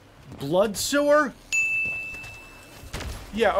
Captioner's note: ding